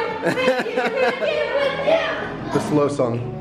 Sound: laughter

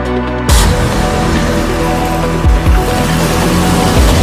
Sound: engine revving

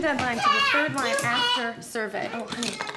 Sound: child talking

